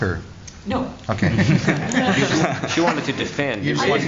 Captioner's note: laughter